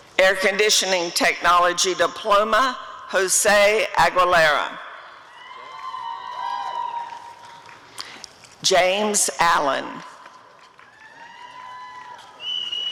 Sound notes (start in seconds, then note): 5.3 applause and cheering; 10.6 applause and cheering